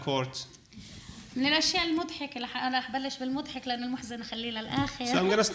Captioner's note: speaking arabic